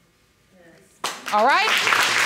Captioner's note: audience claps